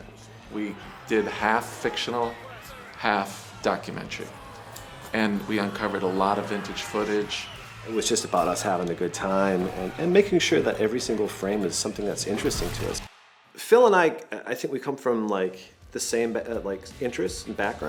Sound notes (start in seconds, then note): 4.4 people shouting faintly